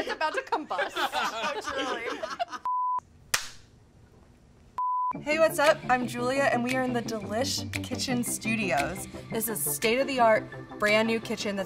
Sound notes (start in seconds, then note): 0.0 all laughing; 2.6 beep; 3.3 clapperboard claps; 4.8 beep